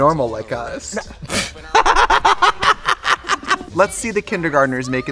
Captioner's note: both laugh